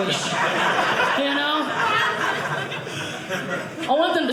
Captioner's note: audience laughing